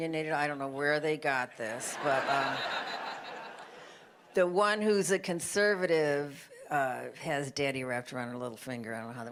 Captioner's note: laughter